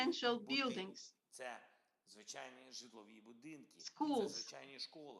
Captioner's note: Volodymyr speaking foreign language